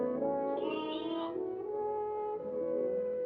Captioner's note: lamb bleats; sad, romantic music